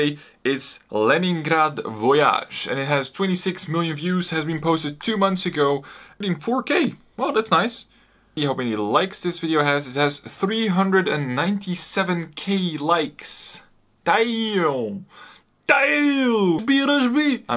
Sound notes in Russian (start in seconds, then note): 13.8 кричит что-то якобы на русском